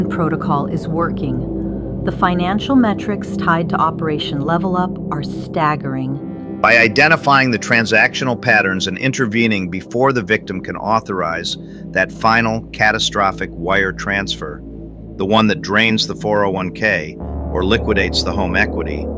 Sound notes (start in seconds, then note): 6.9 excited